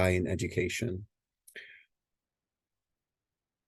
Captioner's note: long pause